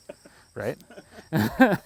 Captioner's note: laughing